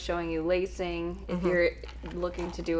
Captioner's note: hums in agreement